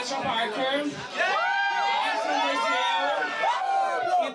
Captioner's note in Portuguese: todos gritam